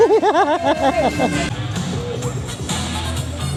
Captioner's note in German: gelächter